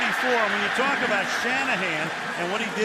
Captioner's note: cheering